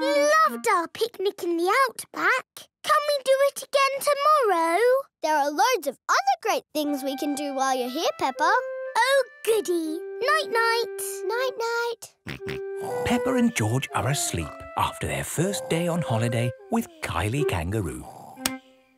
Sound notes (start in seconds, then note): 12.8 snores; 12.8 snorts